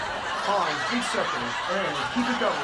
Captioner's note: audience laughing